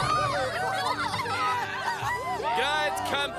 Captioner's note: all cheering